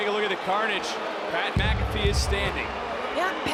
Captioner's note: crowd boos